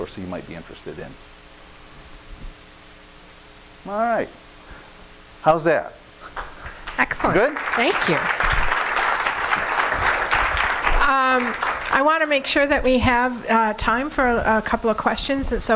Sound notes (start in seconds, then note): 6.3 audience applauding